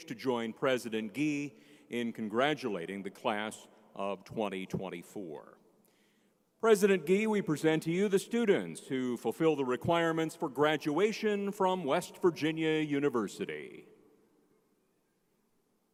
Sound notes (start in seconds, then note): none